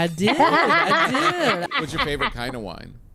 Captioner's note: laughs